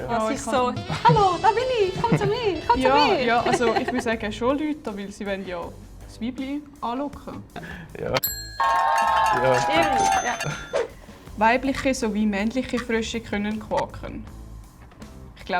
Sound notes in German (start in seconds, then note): 7.9 Buzzer richtig; 8.2 ka-tsching; 8.5 mehrere Personen jubeln und klatschen